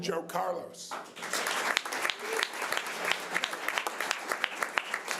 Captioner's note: audience applause